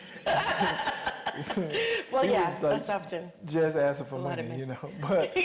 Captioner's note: Mireille laughing